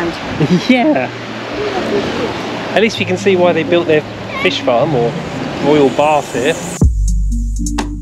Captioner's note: laughter